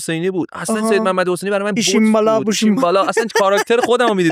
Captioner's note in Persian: خنده